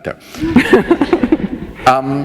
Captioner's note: laughter